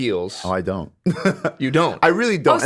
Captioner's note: laughs